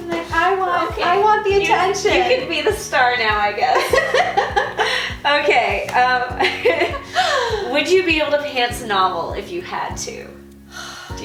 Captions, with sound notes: - I want him, I want the attention. - You can be the star now I guess. (laughing) Okay, (laughing) would you be able to pants a novel if you had to?